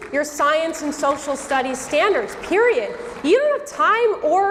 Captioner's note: audience clapping